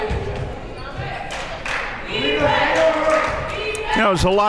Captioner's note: claps